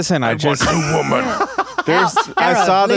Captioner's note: laughing